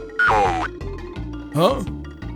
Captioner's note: old man voice